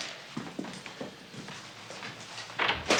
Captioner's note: none